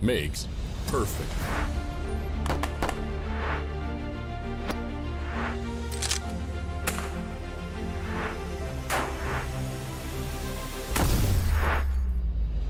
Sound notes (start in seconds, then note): 0.2 intense music; 6.8 shotguns firing; 9.7 intense music